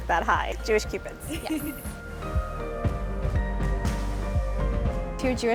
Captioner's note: laughter